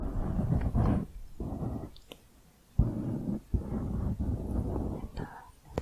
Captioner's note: piecey mic scratching